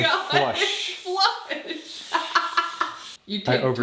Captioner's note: laughs